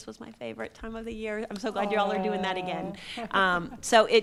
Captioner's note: laughing